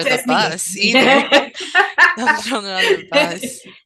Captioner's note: laughter